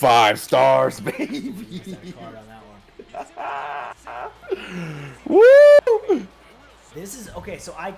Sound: laugh

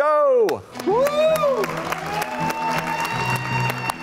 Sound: clapping

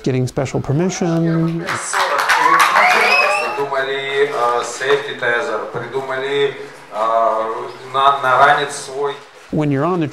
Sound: cosmonauts’ press conference in Russian

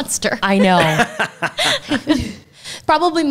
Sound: laughs

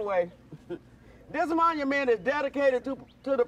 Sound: nervous chuckles

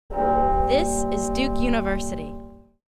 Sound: bell rings

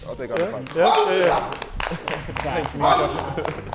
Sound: Sidemen applauding

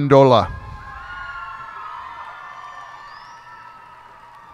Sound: cheers and applause

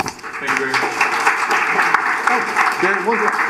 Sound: applause

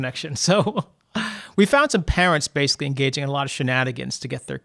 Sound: laughs

